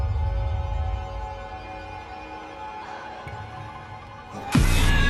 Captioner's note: screaming